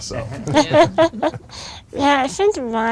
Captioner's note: group laughs